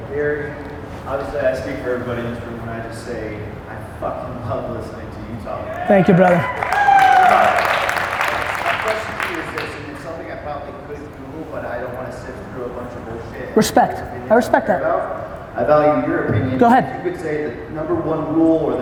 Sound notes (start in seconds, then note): 5.6 audience cheers